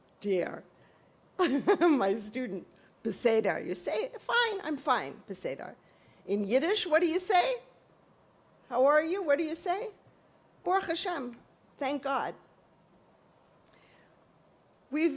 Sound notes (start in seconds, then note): 2.7 hebrew; 10.4 yiddish